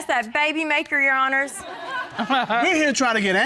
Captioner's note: audience chuckles; judge chuckling